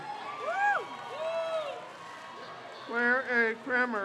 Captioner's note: crowd cheers